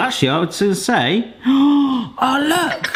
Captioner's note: gasps